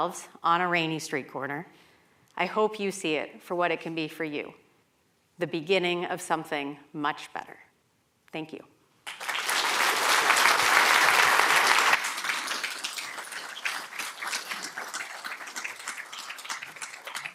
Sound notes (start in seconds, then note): 9.0 applause